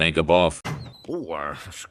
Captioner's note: door Opens